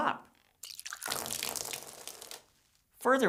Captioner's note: water dripping